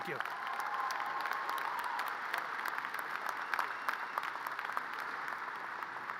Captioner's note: audience cheers and applause